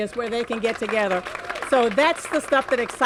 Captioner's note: cheers and applause